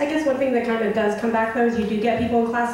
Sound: voiceover

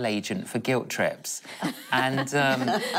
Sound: laughing

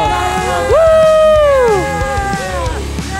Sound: cheering

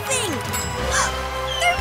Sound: gasps

